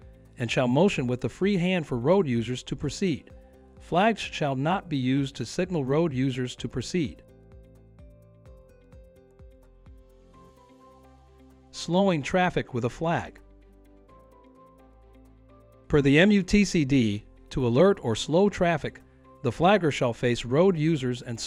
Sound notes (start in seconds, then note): none